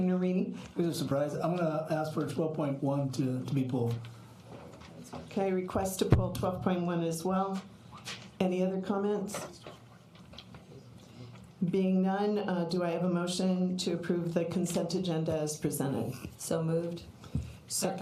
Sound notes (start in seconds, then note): none